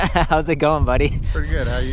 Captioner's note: laughs